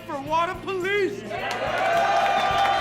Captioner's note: cheering; applause